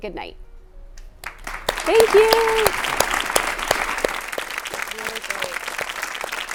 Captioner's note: all clapping hands